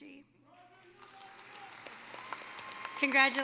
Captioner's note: applause